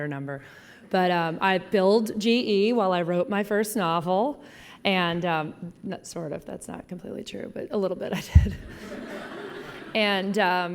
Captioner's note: laughing